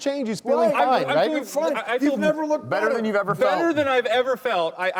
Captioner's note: arguing